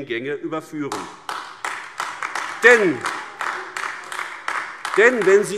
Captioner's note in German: Beifall AfD